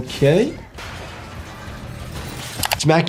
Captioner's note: metal crashing